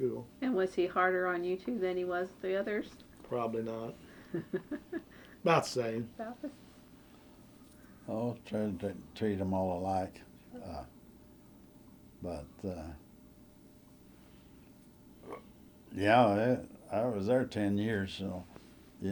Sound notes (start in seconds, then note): 4.2 laughter